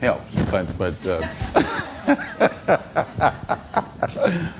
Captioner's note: audience laughing